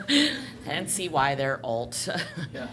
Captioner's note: laughter